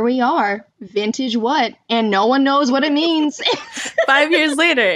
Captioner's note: laughter